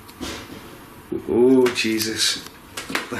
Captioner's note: clattering